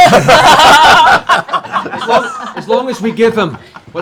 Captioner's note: laughter